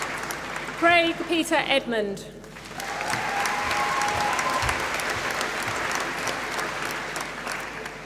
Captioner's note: applause